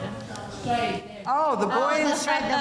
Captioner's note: murmuring